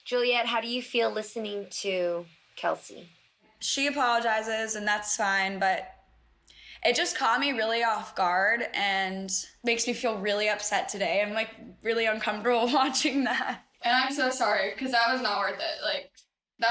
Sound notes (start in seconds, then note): 11.3 laughs awkwardly